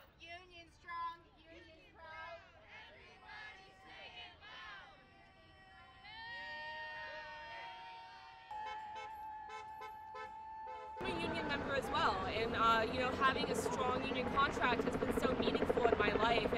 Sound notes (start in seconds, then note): 6.1 crowd cheers; 9.4 car horns honking